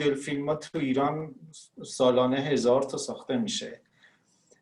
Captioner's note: speaking Farsi